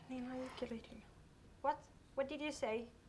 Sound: murmuring

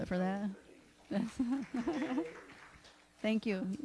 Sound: applause

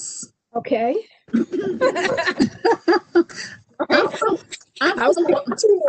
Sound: laughter

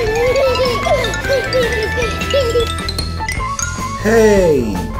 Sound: Goo Goo Baby laughs; xylophone trilling

